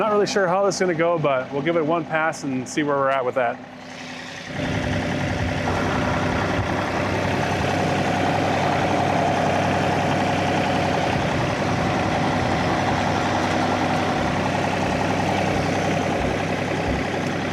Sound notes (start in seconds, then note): 4.7 engine revving; 13.9 upbeat music